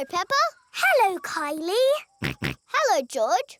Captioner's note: snorts